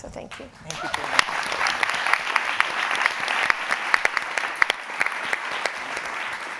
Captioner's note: audience applauding